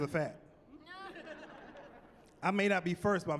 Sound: chuckling

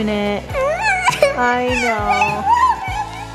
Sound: crying

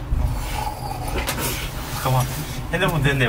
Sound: ahhh

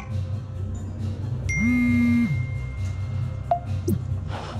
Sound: message alert

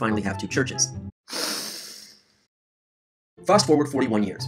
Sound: deep breath

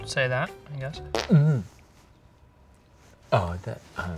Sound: farts

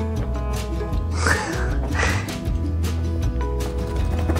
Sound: laughing

